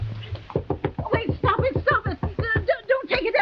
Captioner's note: Veta knocking on door